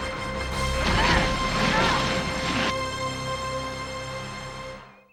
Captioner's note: ladies groaning